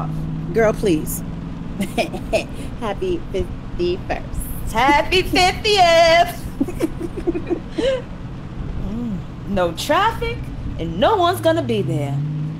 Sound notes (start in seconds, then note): 2.8 laughter; 8.0 steady rainfall